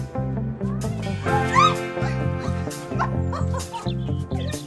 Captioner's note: screams of delight